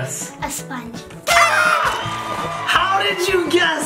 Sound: horn toots

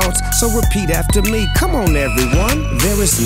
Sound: whistle blows

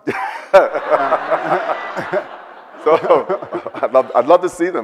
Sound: Bill and audience laugh

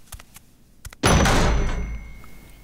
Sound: loud banging

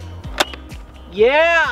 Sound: pop

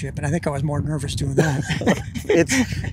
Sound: both Laughing

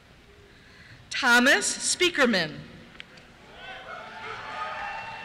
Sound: cheers

